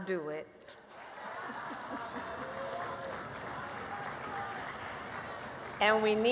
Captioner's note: laughs; applause